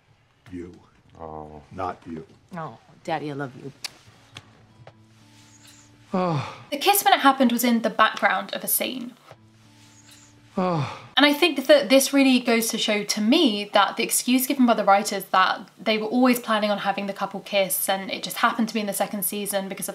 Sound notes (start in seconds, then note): 3.8 kisses; 6.1 sighs; 10.5 sighs